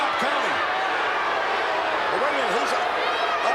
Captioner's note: crowd booing